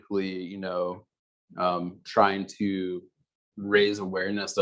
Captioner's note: male Voice